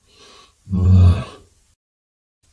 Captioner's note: sighs